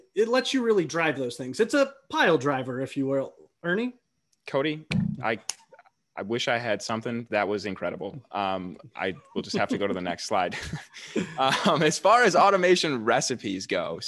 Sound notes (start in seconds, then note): 10.7 chuckles